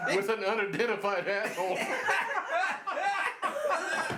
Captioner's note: all laugh